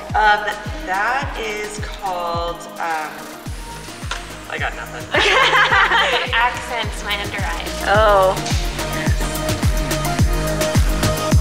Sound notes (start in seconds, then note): 5.0 laughs; 8.4 upbeat music